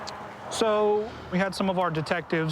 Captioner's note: none